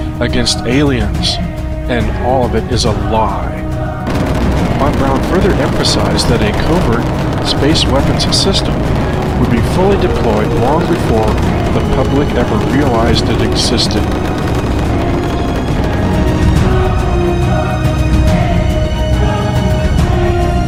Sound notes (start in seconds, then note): 4.8 rocket fires